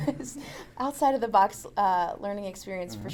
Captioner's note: laughs